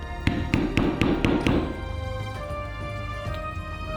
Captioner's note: hammer pounding